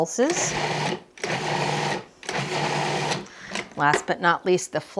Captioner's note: food processor whirring